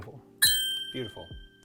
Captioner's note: bell chiming